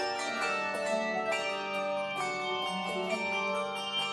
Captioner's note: none